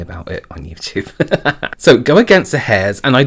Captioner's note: laughs